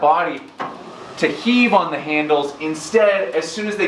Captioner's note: SkiErg whirring